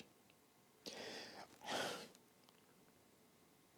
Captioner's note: sighs